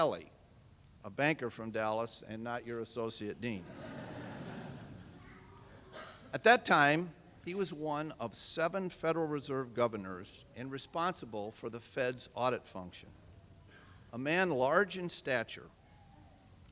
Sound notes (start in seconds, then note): 3.5 laughter